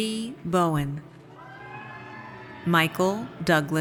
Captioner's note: audience cheers